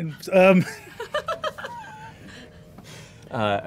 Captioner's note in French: rires